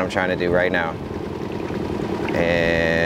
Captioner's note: engine chugging